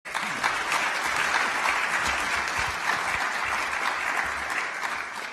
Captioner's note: applause